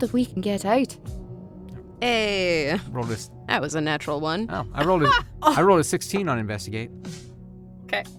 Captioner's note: laughs